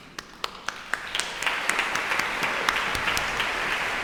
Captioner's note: audience applauding